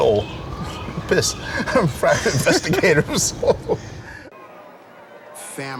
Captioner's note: laughs